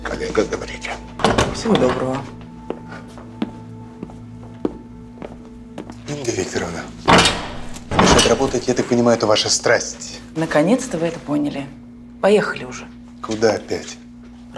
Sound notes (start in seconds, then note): 2.2 footsteps